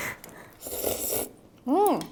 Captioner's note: slurping